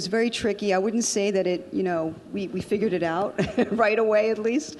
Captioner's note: laughs